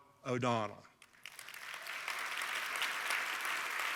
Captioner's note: applause